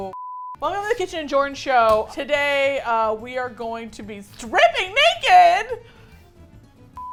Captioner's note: excitedly